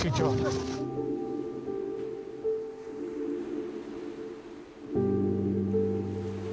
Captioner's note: water splashing; solemn music